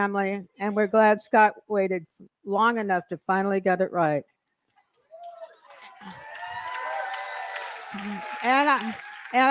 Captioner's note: cheering & applause